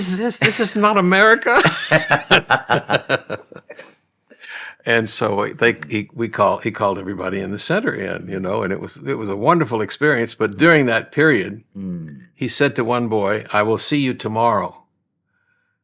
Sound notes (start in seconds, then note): 1.5 laughing